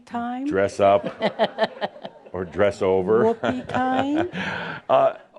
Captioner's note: some chuckles